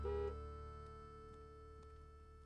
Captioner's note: honking